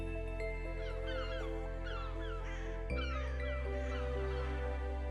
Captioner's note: seagulls cawing